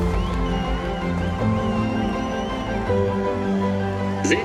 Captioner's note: crowd cheering